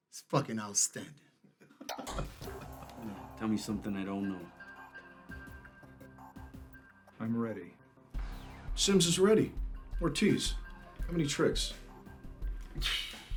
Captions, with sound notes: it's fucking outstanding. (Anders laughing) - Tell me something I don't know. (gentle music) - I'm ready. - Sims is ready. Ortiz, how many tricks?